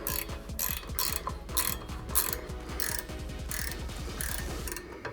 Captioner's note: drill whirring